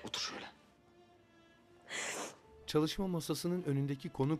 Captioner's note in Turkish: Burun çekme sesi